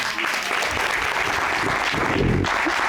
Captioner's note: applause